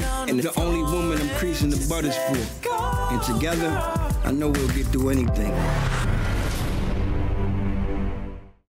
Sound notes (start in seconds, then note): 5.3 upbeat outro music playing; 5.4 logo whooshing